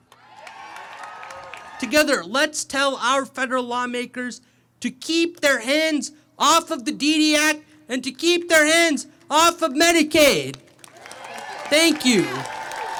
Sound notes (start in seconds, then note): 0.1 audience cheering; 10.9 audience cheering